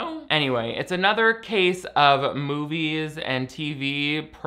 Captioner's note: none